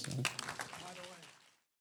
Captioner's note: applause